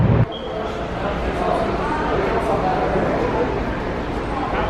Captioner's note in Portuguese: barulho de máquinas com conversas ao fundo